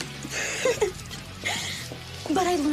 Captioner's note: laughs